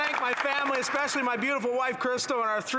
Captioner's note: some Applause